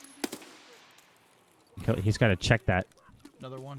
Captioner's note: gun firing